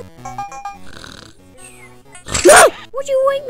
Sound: snores then screams

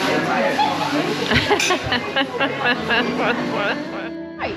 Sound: laughing

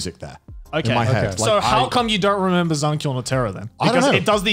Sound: murmurs

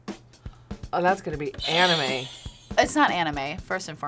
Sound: bell rings

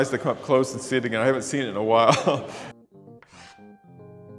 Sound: laughs

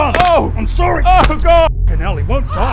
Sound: stomps

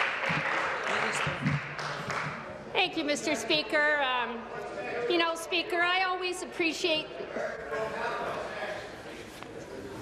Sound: applause

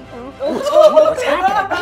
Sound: gamers laughing

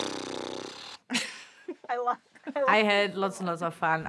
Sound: laughs

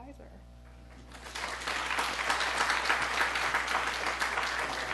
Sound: applause

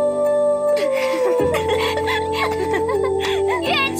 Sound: girls laughing

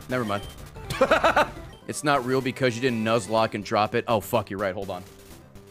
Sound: laughs

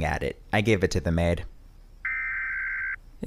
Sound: emergency warning beeping

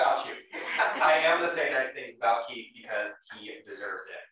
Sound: laugh

